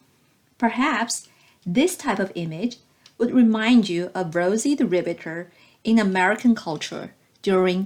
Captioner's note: click